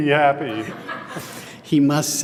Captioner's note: laughter